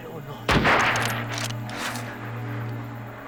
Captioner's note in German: Gewehrfeuer